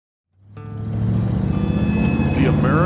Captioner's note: engine roaring